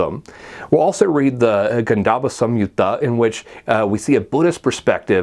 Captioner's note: non-english speech